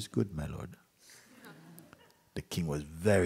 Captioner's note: laughter